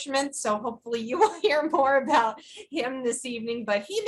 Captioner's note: laughs